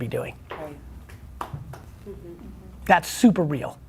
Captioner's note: clapping